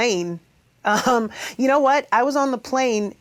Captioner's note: chuckles